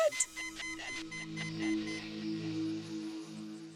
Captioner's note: alarm beeping